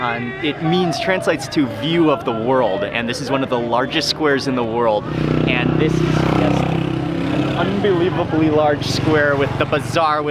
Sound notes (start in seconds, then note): 5.0 motorcycle engine revving